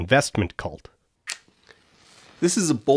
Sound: match lighting

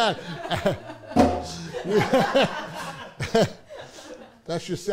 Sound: all laugh

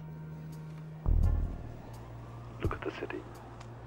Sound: sirens ringing; dramatic music continues

